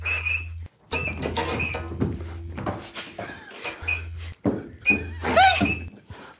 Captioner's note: group quietly laughing; buzzer game beeping; collar buzzing